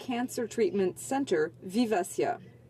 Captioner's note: speaking French